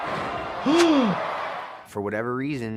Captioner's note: gasps